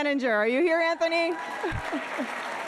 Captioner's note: audience applauding